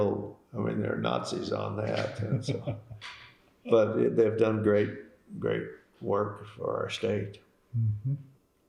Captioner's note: laughter